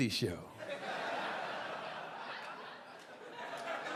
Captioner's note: audience laughing